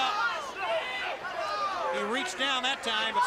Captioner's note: crowd chatter